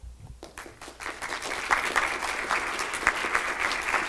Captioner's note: applause